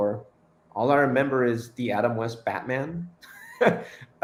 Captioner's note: chuckles